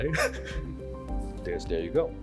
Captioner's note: laughs